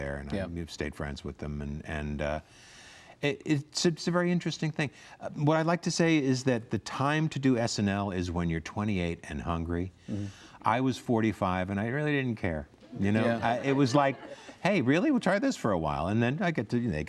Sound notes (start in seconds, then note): 13.0 audience laughs